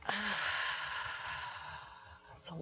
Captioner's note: exhaling